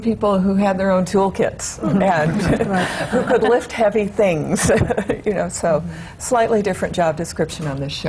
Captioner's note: laughter